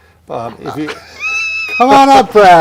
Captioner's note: laughs